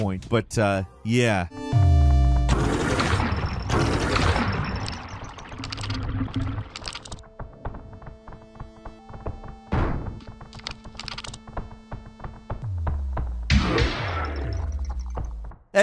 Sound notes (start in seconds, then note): 2.5 gun bangs; 6.7 gun clatters; 13.4 gun bangs